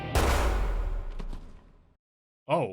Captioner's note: gunshot; thud